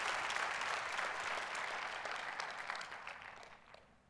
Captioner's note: applause